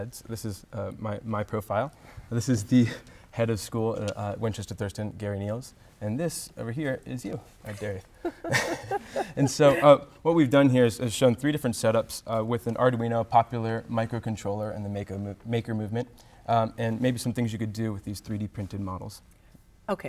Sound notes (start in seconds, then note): 8.2 laughing